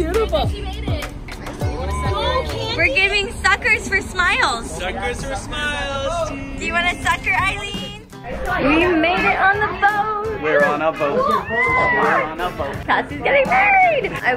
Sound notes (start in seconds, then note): 11.4 excitement squeal